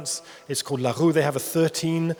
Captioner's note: speaks in foreign language